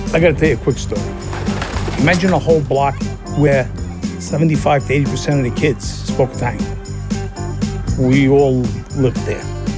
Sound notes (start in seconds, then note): 0.4 pigeons flapping